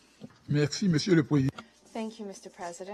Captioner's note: speaking in foreign language